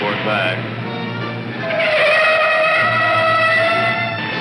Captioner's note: tires squealing